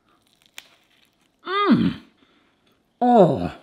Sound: munching

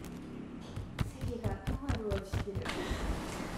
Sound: tap tap

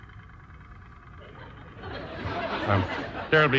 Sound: audience laughs

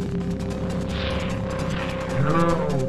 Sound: sound distortion

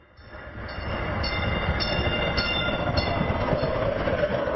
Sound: train roaring

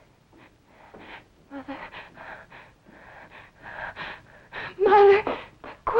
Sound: gasping

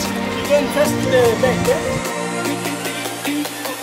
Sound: foreign language

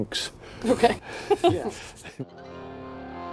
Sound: laughing

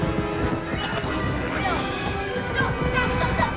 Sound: pig grunts, squeals

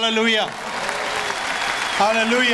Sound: audience applause

